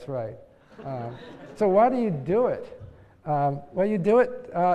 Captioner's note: laugh